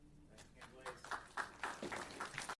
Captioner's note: audience applauds